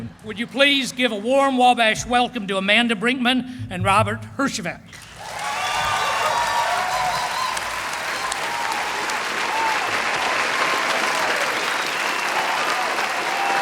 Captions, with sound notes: Would you please give a warm Wabash welcome to Amanda Brinkman and Robert Herjavec. [applause]